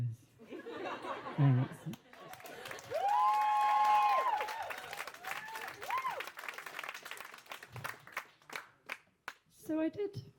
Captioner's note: applause